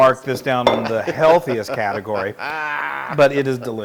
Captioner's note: laugh